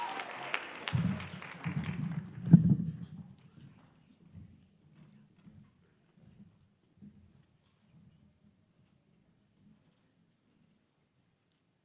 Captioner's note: applause